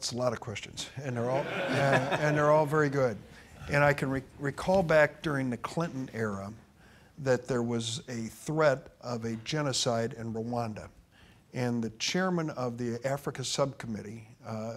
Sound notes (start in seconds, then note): 1.2 audience laughing